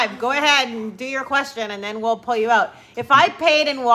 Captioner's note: none